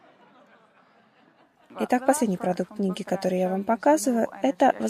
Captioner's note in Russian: Смех